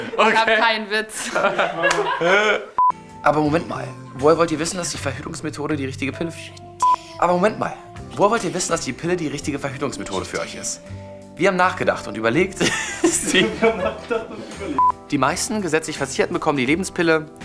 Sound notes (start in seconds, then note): 0.0 Lachen; 4.5 Gelächter; 16.9 lacht